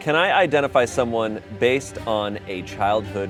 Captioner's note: none